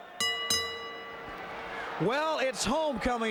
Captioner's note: bell dings